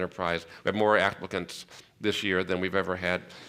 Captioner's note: none